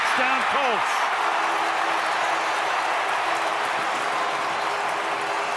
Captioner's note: cheering